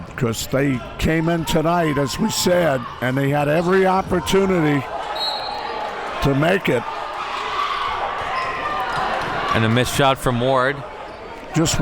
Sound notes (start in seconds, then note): 5.1 whistle blows